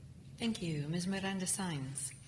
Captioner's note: voiceover